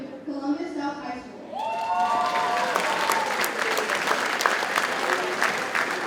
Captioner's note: audience cheers and applauds